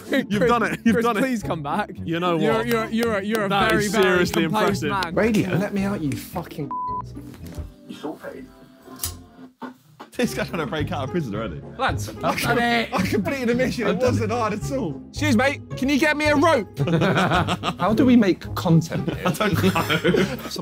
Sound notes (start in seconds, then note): 8.3 radio tuning; 16.7 laughing; 19.0 all laughing